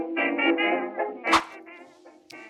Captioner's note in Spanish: woosh